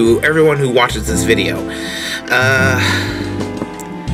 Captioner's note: takes a deep breath